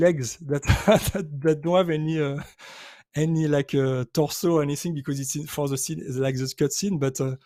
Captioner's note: laughs